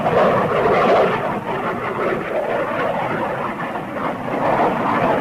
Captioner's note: plane engines roaring